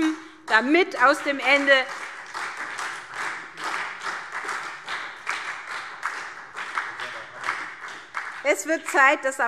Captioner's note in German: Beifall SPD